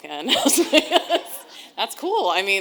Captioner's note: audience laughing